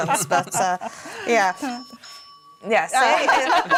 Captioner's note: bell ringing